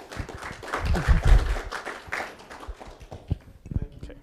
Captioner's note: laughs; applause